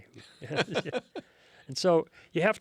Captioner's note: laughs